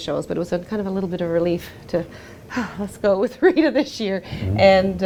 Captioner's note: sighs